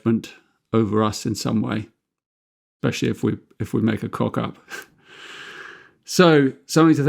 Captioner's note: chuckles